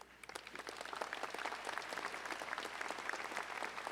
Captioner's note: audience applauding